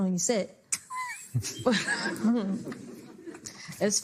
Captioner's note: laughs